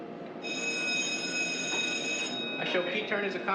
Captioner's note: alarm